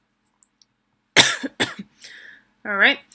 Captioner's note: coughing